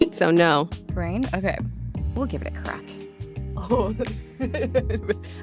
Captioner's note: giggles